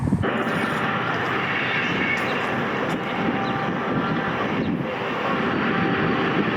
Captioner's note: wind rumbles; rest stop background noises amplified